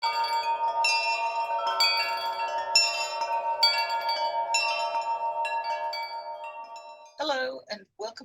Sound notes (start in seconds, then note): 0.0 chimes